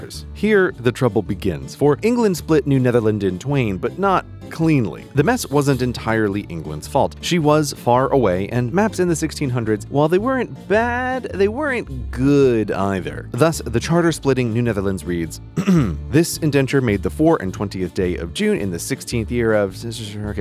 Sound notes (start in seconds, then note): 15.5 clears throat